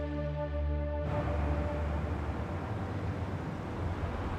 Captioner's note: distant traffic